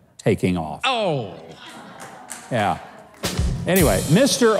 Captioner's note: audience mumbles